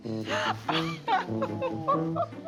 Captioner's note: laughing